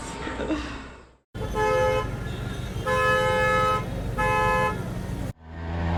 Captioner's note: traffic noise